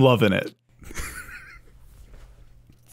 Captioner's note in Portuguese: risada